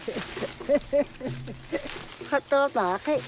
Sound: laughs

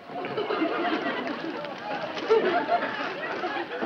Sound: audience laughs

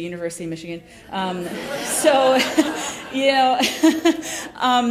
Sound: laughter

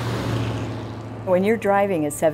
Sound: truck engine roars

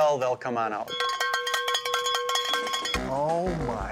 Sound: bell clanging

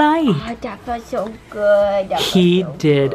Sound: baby voice

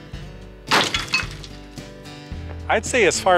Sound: crashing sound

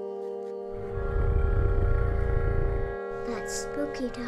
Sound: growling

